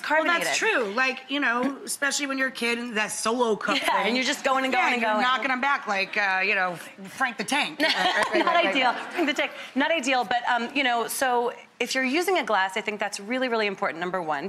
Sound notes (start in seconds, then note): 7.8 laughing